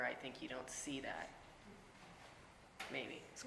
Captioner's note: none